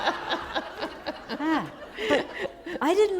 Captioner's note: laughter